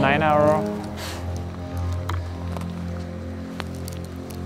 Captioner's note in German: keuchend